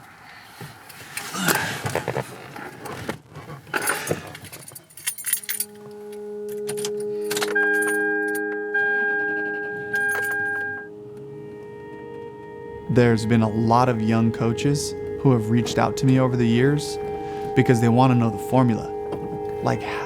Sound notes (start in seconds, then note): 3.8 keys rattling; 7.8 car beeping